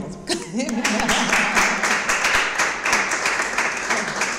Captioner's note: audience applauds